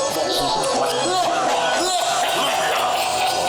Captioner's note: blumiere laughing maniacally